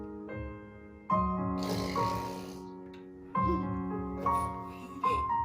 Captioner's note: makes spitting noise, giggles; giggling